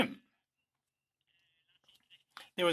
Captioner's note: speaking in French